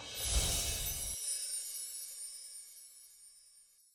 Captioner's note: chimes tinkling